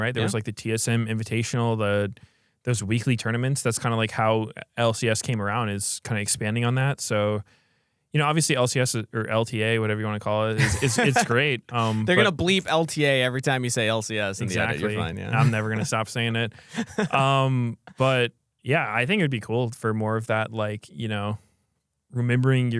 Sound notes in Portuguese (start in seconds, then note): 10.6 risos; 16.6 risos